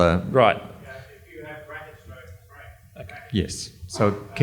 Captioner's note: murmurs